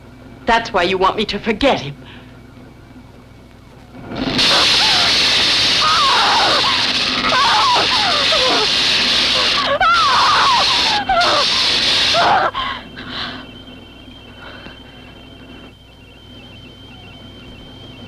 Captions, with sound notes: That's why you want me to forget him. (electrical fizzling) (screaming)